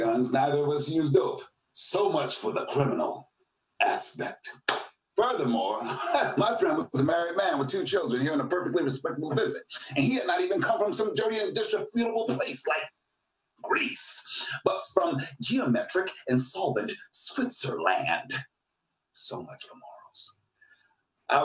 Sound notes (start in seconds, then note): 5.7 laughs